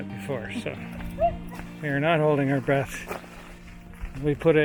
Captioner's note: laughing